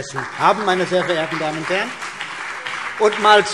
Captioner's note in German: Beifall CDU und BÜNDNIS 90/DIE GRÜNEN